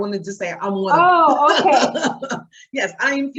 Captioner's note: laughing